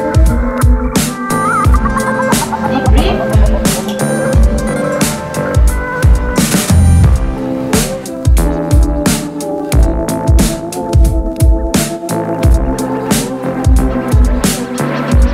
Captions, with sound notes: - Deep breath. (clicks) (new age music) (new age music)